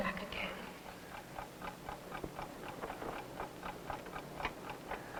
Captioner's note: clock ticking